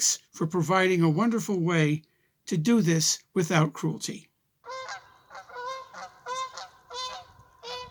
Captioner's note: geese honking, birds singing